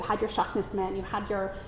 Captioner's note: says word in foreign language